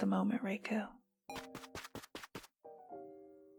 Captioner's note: running sounds